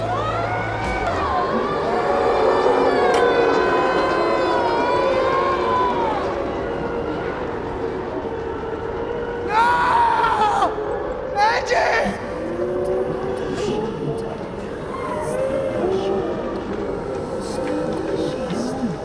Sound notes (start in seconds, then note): 0.6 eerie tense music; 0.6 people screaming; 13.8 eerie tense music